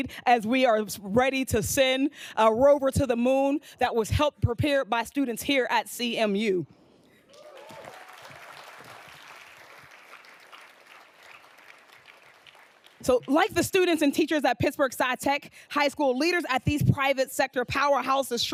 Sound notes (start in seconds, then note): 7.2 audience applauding